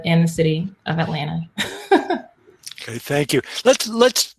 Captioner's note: laugh